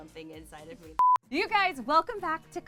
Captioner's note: beep